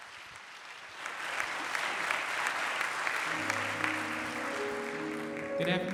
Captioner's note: applause